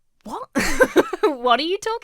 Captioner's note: laughs